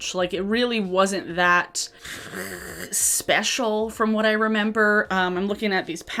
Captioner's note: groans